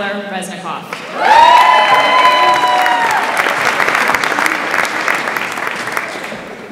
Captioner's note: audience applauds and cheers